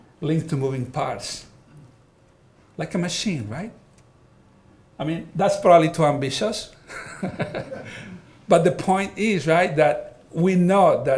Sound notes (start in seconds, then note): 6.8 all laughing